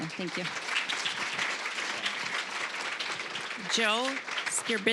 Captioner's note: applause